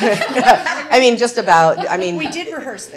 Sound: laughter

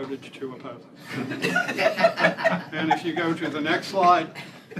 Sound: laughter

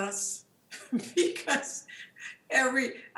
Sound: laughs

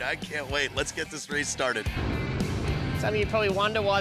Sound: engines revving

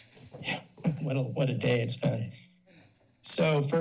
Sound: laughs

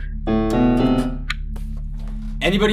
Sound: button clicks off

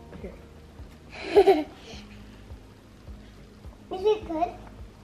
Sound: laughs

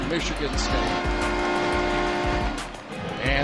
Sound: goal horns blares

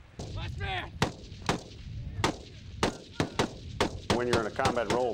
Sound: voiceover; steady gunfire

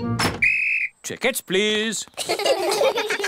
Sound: blows whistle; all laugh

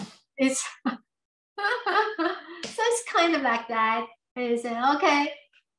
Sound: laughs

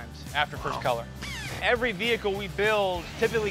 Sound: drill whining

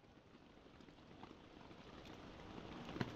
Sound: rain

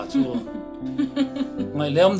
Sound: laughing

